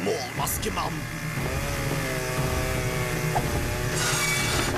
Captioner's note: chain saw revving